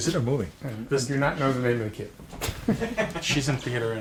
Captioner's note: laughter